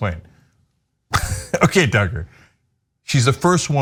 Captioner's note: laugh